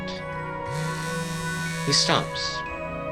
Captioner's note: janus' phone goes off